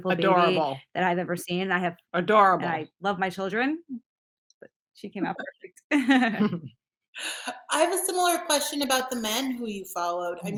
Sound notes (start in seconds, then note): 5.9 laughs